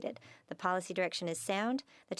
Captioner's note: speaking French